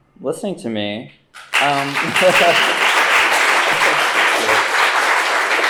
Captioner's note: applause